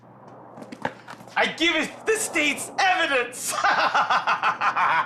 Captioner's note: laughing